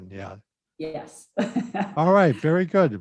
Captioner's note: laughing